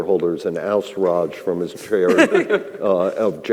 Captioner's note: others laughing